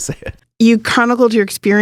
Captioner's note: laughs